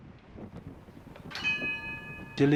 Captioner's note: bell chimes